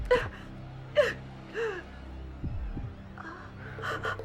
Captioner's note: sobbing